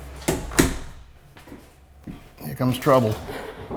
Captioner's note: closes the door